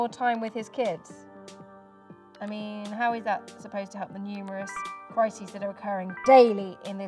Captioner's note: notification sound